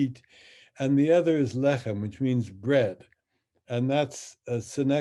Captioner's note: speaks in Hebrew